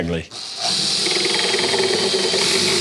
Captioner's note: electric drill sound